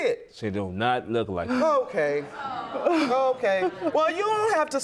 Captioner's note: scoffs